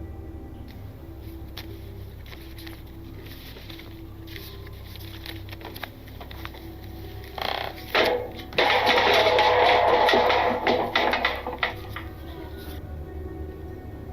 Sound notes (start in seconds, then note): 7.9 loud crashing noise